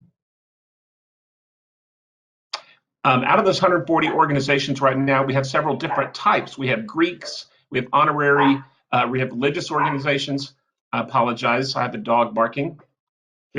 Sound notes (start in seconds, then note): 5.5 dog barking